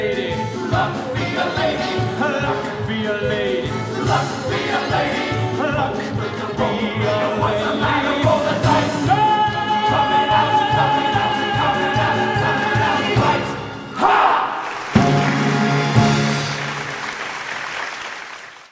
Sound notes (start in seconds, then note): 9.1 men, chanting